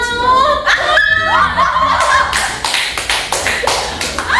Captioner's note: fangirling